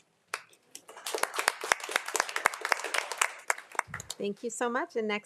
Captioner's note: everyone applauding